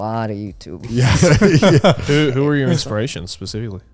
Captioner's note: laughing